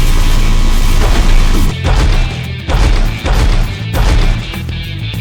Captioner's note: armor clanks; steps thudding